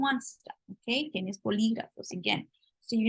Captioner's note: spanish